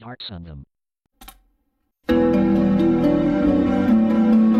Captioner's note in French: cliquement sur la barre d'espace, musique en cours